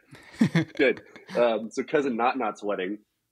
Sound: laughs

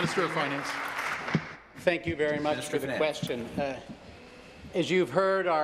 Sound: applause

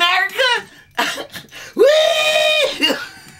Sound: laughs

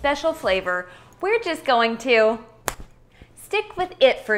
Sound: finger snapping

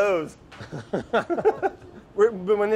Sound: both laugh

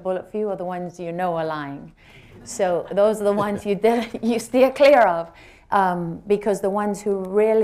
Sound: laughter

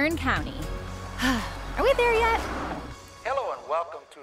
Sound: sigh

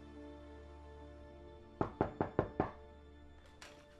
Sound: knocking on door

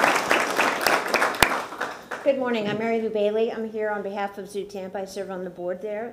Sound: applause

